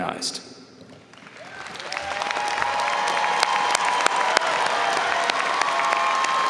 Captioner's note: audience cheering and applauding